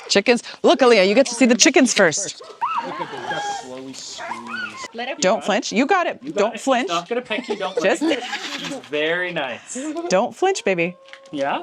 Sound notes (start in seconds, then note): 2.6 chickens clucking; 7.6 laughing